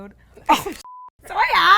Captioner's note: beep